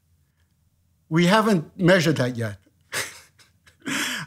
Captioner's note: laughs